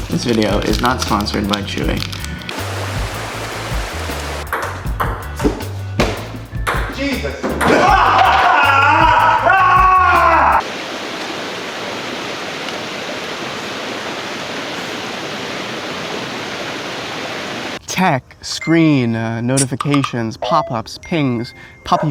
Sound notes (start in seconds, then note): 0.0 light upbeat music; 3.0 water streaming; 7.7 screaming; 10.5 water streaming